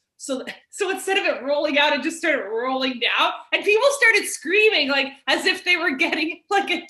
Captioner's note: none